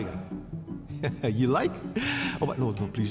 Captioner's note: pensive music; laughs